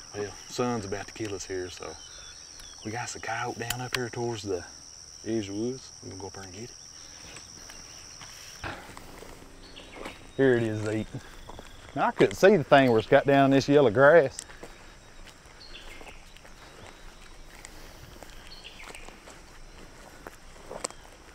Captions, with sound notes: Well, sun's about to kill us here, so. But we got's a coyote down up here towards the, these woods, gonna go up there and get it. Here it is, Zeke. Now, I couldn't see the thing where it's got down this yellow grass. (birds chirping) (grass crunching)